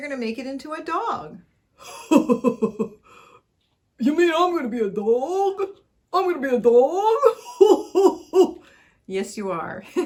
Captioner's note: puppet chuckles; laughter